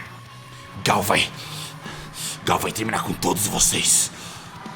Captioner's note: panting